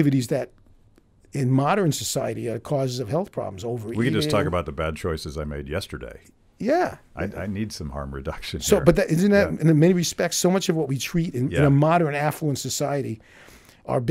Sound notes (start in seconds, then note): 8.5 laughing